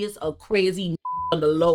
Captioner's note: beep